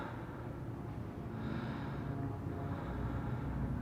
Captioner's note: man breathing